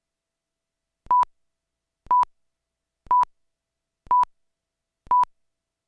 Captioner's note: beeping